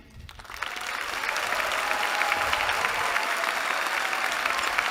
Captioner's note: applause